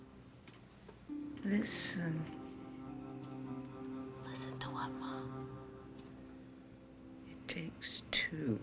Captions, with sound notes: Listen. (WHISPERS) Listen to what, Ma? It takes two.